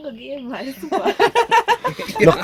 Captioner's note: laughing